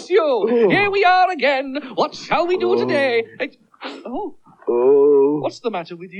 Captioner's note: magician Groans